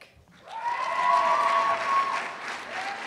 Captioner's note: cheers and applause